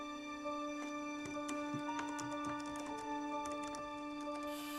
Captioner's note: keys clicking